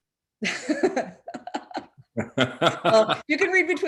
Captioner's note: chuckles